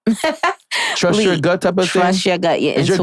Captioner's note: laughing